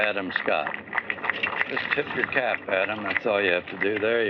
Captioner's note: applause